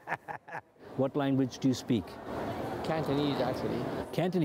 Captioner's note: laughter